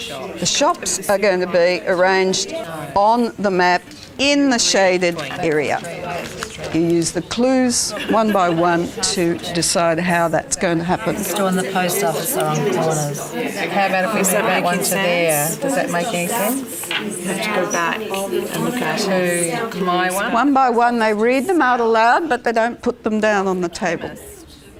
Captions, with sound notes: The shops are going to be arranged on the map in the shaded area. You use the clues, one by one, to decide how that's going to happen. [audience chatter] One by one they read them out aloud but they don't put them down on the table.